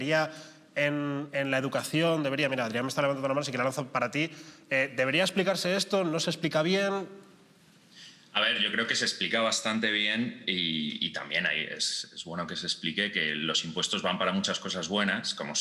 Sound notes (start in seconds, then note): none